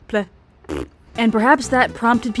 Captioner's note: fart sound